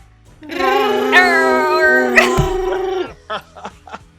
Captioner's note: wookiee roaring